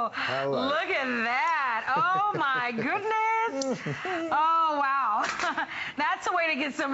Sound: laughter

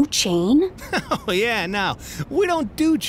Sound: laughs

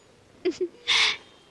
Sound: chuckles

